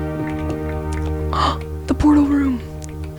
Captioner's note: ghasp